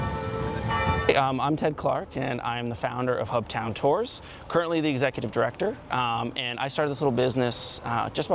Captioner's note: bell tolling